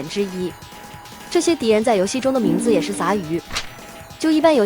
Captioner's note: grunts